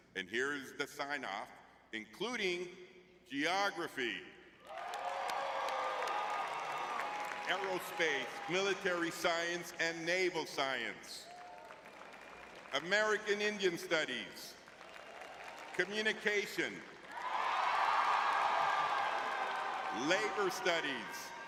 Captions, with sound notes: and here is the sign-off, including geography. Aerospace, military science, and naval science. [audience cheering] American Indian studies. [audience cheering] Communication. [audience cheering] Labor studies.